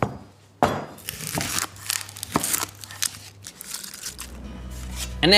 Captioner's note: banging; knife chopping